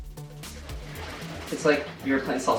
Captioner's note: liquid swishing